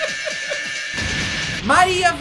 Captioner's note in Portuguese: risos; explosão